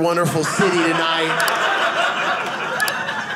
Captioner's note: audience laughing